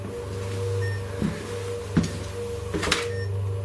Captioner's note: beeping